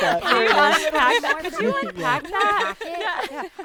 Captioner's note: group laughing